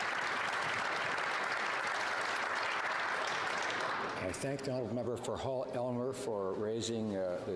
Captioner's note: applause